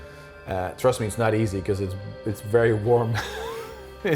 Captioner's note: chuckling